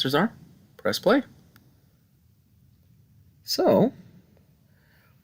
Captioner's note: no Speech Detected